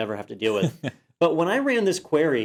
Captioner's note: laugh